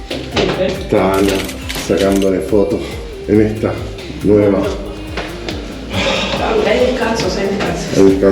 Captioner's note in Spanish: suspiros